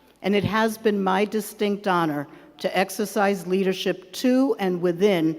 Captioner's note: none